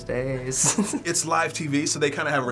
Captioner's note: snickers